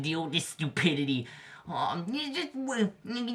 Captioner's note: bernard stutters